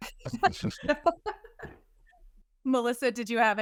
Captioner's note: all laughing